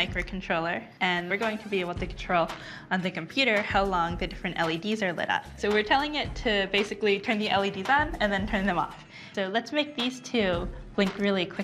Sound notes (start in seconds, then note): none